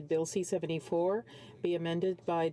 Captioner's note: speaking French